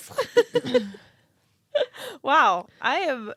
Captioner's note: laughing